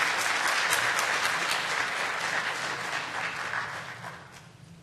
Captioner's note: applause